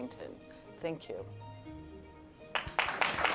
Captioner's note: applause